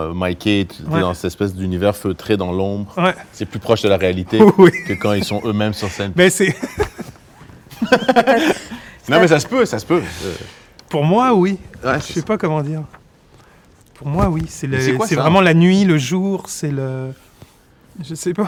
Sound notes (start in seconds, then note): 7.7 laughs